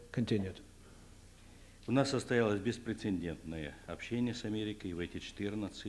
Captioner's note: non-english speech